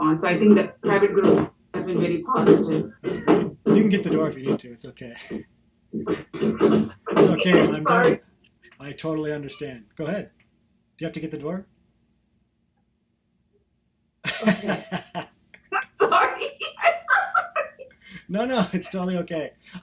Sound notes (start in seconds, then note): 7.1 laughter; 14.2 laughter; 17.8 laughter